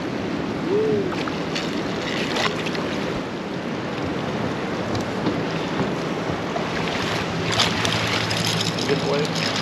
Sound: fish splashing; tackle rattling

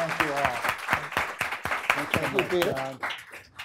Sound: audience applauding

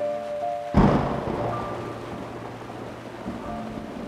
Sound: thundering

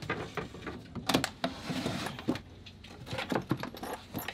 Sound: hatches clunking

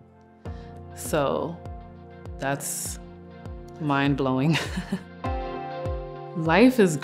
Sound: chuckling

